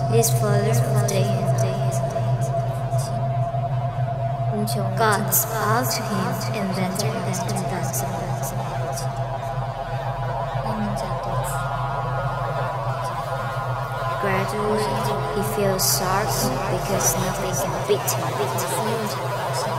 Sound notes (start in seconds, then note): 0.3 disembodied voices echo; 6.8 disembodied voices and ethereal droning